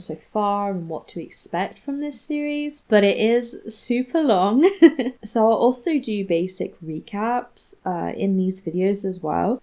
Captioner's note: giggles